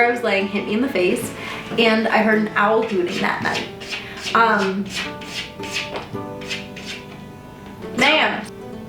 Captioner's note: more litter scraping noises